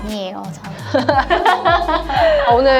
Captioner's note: laughter